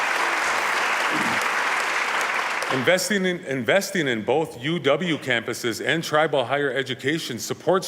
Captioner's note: applause